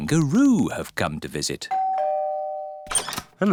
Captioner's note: doorbell rings